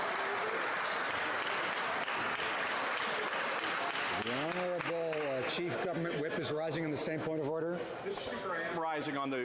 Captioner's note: applause